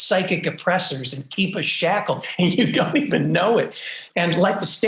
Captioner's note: laughs